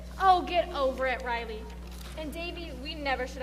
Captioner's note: none